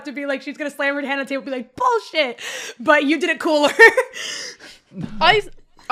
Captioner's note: laughs